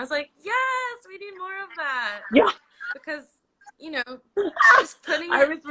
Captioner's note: laughs